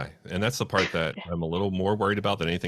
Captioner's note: laughs